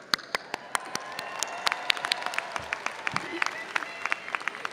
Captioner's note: applauds; attendees applauding